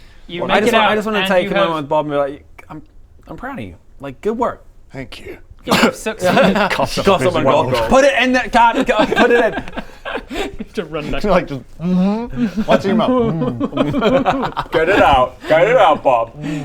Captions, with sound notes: - I just want to take a moment Bob and be like - You make it out and you have I'm I'm proud of you, like good work Thank you - *cough* - You have succeeded Coughs up a piece of gold PUT IN THE...GOD...PUT IT IN! you have to run back! Like just mhmm? What's in your mouth? Mhmmmm Get it out get it out Bob